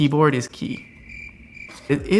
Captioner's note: crickets chirping